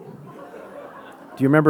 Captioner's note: audience laughing